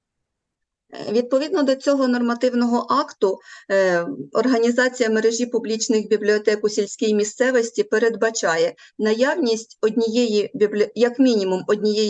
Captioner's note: foreign Language